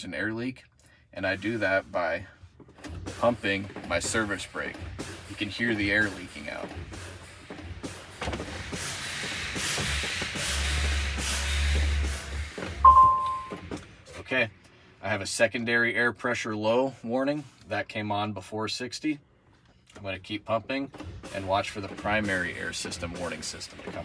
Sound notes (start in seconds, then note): 12.8 beeping; 12.9 brake pumping